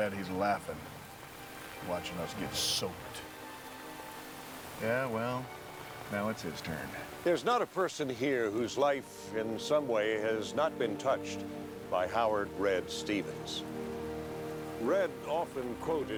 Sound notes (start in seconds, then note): none